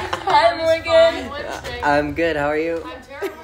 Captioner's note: laughter, unintelligible responses from young people; laughter